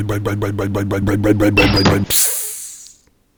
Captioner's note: rumbling motor; clank; hiss